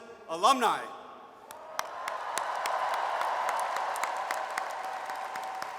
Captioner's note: audience cheers and applauds